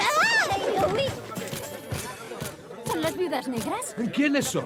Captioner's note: newscaster clamoring to ask questions